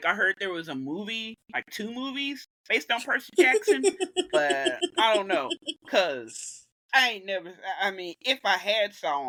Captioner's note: giggle